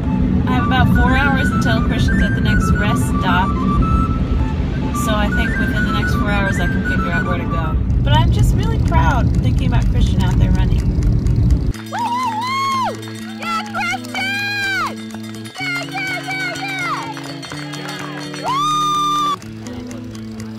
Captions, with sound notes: - About four hours until Christian's at the next rest stop. So I figure within the next four hours I can figure out where to go. But I'm just really proud thinking about Christian out there running. (cheers) Yeah, Christian, yeah yeah yeah yeah! (cheerful music)